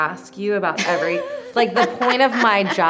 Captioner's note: laughs